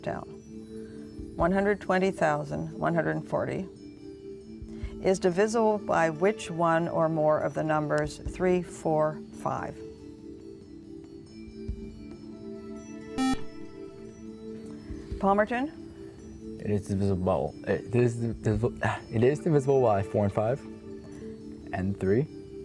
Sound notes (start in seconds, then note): 13.2 buzzer; 15.5 stammers